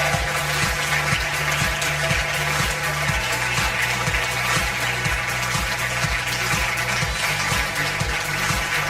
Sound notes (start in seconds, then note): 0.0 audience applause; 0.0 upbeat music